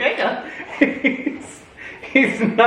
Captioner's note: dad laughs